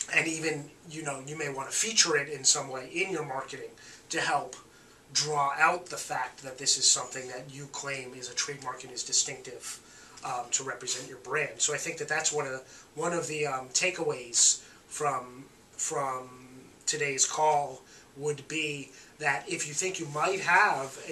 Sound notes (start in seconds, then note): none